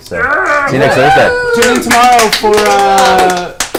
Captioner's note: all cheer